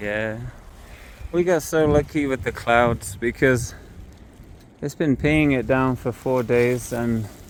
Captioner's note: raining